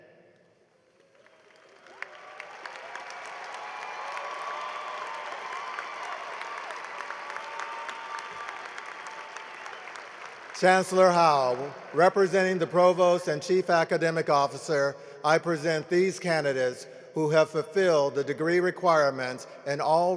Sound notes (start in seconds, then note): 4.5 cheering and applause